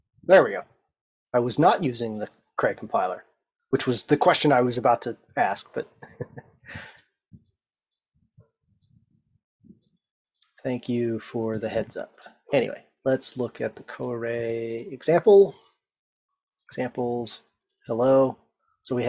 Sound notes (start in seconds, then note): 6.0 laughs